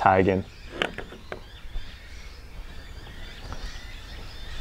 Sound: birds chirping

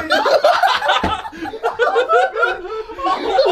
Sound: laughing

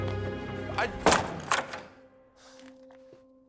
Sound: door bangs

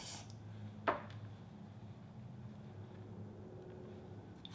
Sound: dish thuds

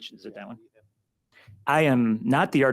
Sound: speaks faintly

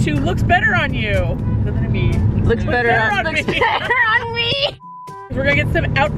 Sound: laughing

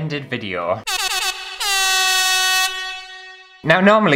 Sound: air Horn

